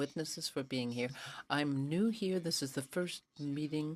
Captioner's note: speaking French